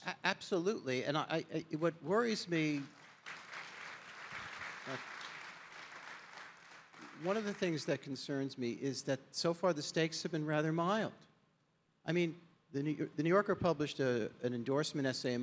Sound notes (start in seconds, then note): 2.6 audience applauding